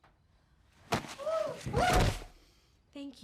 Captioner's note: Dr. Morgavi exclaiming in shock